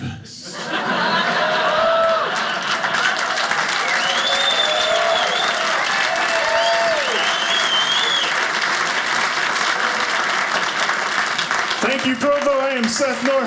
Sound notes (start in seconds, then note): 0.3 audience laughing; 2.2 audience cheering